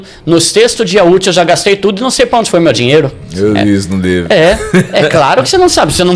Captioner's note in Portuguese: risadas